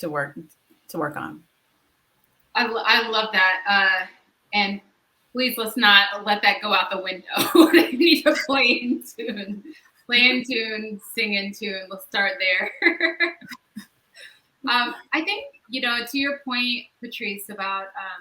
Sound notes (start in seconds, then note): 7.3 laughs; 12.5 laughs